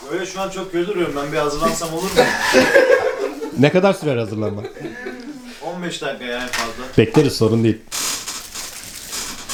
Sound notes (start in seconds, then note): 2.1 laughing sounds